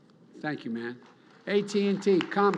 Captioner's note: applause